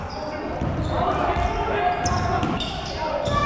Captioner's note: yelling